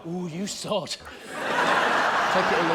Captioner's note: laughter